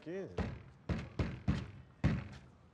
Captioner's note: banging